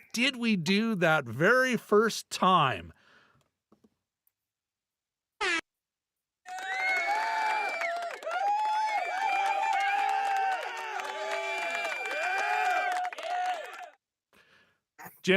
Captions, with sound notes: what did we do that very first time? (audience cheering) (audience cheering)